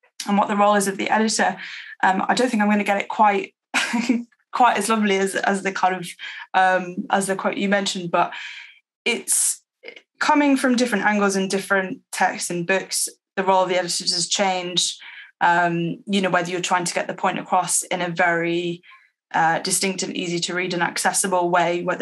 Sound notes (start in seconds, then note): 4.1 laughs